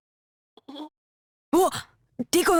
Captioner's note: whimper